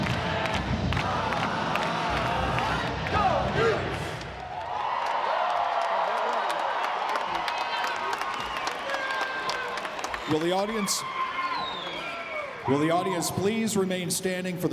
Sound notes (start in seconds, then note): 4.8 all cheers